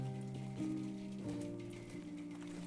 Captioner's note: rainfall